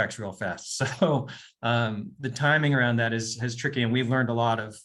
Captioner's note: chuckles